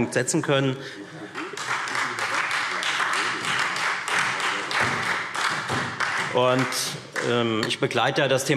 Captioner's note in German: Beifall Freie Demokraten und SPD